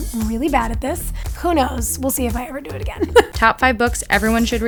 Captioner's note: laughs